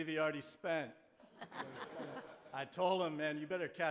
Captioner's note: audience laughing